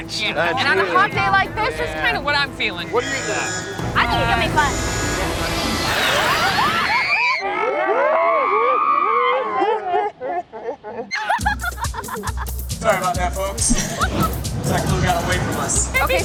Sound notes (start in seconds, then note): 2.9 alarm blaring; 4.4 dinosaur roars; 6.6 family shrieks; 7.5 family shrieks in slow motion; 10.6 chuckles